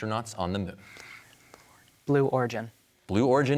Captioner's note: whispers